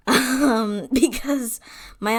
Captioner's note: laughs